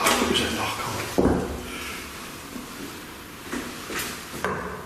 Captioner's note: knocking